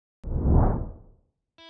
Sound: whoosh

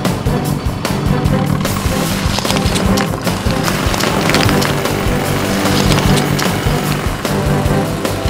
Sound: drilling

